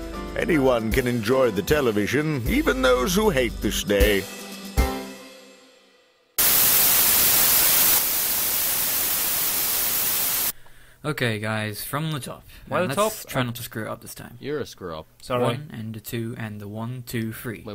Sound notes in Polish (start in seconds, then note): 6.4 Statyczny telewizor